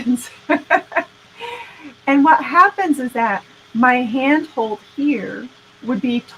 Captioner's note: laughing